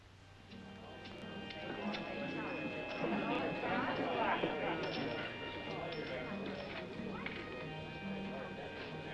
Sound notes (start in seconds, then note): 0.5 chattering